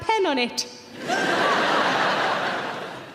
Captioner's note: audience laughing